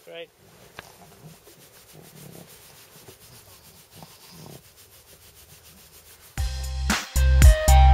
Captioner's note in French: bruits de gratouilles